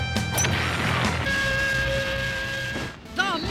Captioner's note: whistling